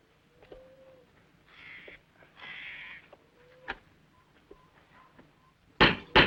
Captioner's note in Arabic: نعيق البومة; نعيق الطيور